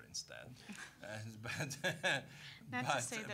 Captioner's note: all chuckling